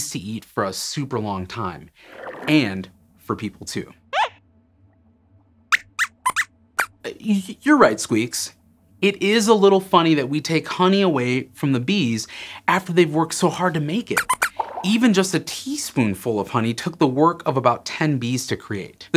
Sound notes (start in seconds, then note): 4.0 squeaks squeaks